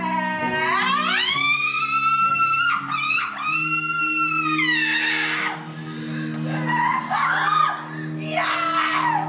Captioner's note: maniacal Laughter